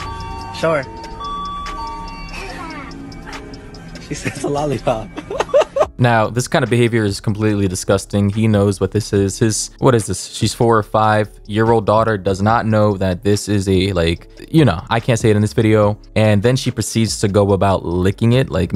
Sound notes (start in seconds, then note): 5.0 laughs